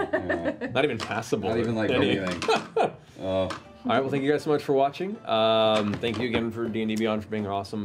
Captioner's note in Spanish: risas